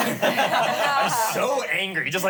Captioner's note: everyone laughs